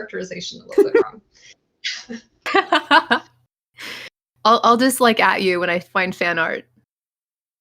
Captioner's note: laugh